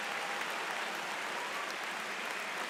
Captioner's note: cheers and Applause